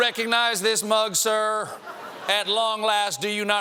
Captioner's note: laughter